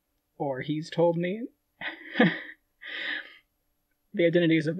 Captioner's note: laughing